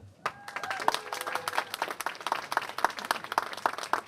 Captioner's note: applause